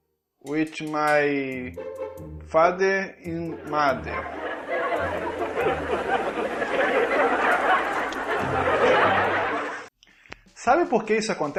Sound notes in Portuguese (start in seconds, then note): 3.6 risadas